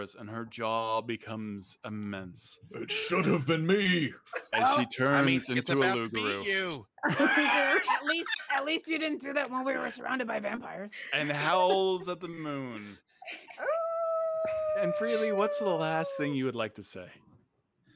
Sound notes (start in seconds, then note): 13.6 Widdle howls